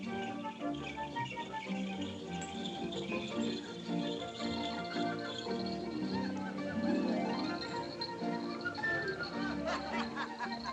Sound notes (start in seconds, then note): 6.8 people Laughing